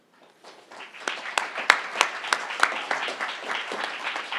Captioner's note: crowd applauding